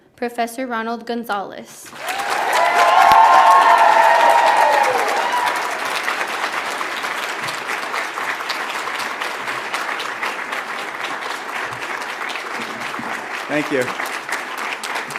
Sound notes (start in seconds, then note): 2.4 audience applauds; 2.4 audience cheers